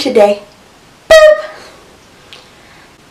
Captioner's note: boop